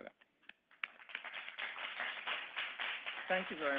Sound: audience clapping

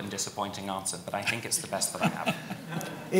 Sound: audience laughs; laughs

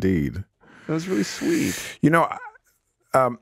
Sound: chuckles

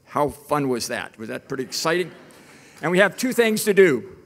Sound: audience laughing

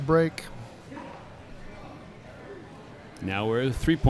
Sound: chattering

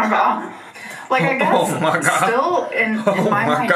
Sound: laughing

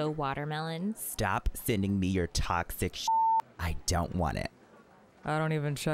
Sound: beep

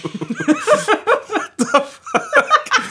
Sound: both laugh

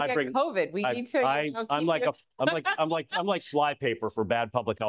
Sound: laughs

